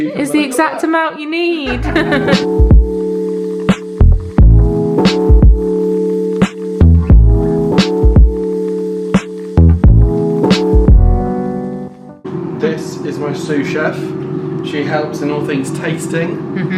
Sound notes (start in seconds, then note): 1.6 laugh; 1.6 upbeat music